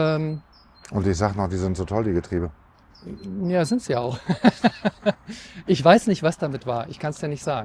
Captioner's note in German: gelächter